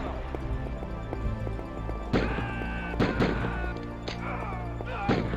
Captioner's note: screams of agony in background